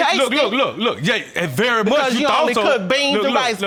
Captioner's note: clamoring